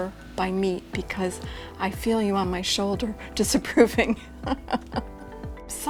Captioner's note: laughing